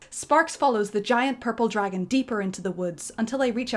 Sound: none

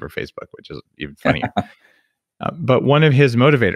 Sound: laughs

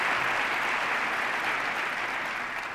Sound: applause

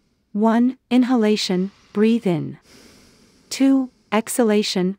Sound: breathe in

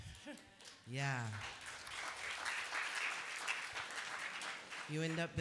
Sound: applause

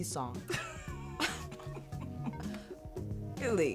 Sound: laughter

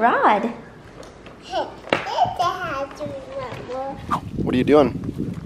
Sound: laughs and babbles

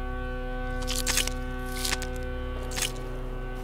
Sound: flesh tearing

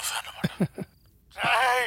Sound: chuckling

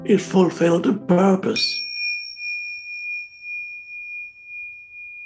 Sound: bell dinging

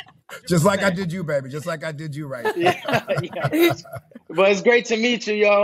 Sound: laughing

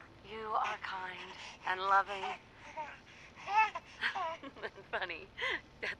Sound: baby laughing

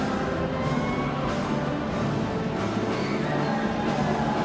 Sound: here cheering

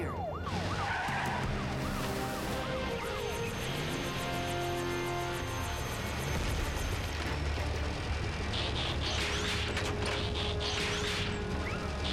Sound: tires screech; licopter blades whirring; gienne revs

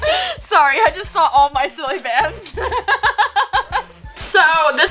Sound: laughs

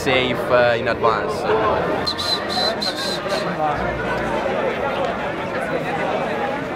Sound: people chattering; whistling

